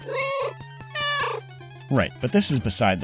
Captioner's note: meow